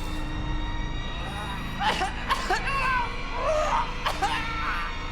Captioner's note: puppet gurgling